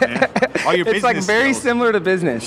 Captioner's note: laughing